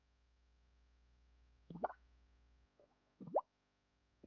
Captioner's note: bubbles popping